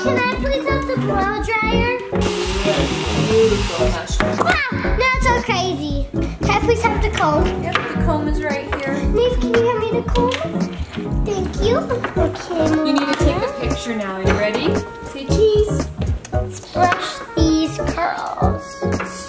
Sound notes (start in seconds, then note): 2.2 hair dryer whirring